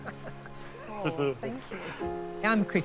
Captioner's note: chuckles